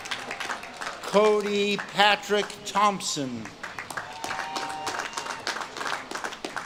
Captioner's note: audience claps and cheers